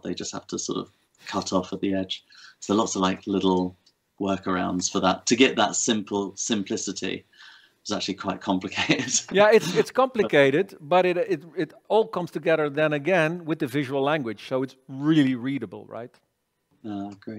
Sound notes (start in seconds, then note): 8.8 chuckles